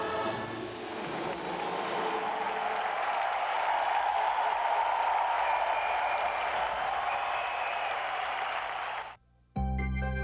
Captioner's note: applause